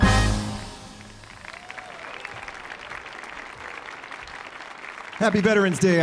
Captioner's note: audience cheering; audience applauding